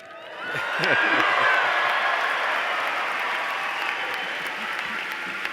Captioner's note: applause